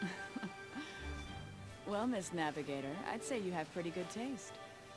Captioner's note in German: kichern